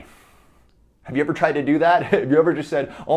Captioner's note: chuckles